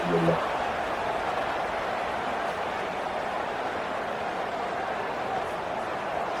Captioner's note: crowd Noises